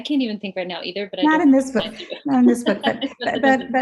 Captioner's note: chuckles